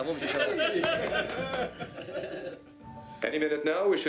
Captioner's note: all laughing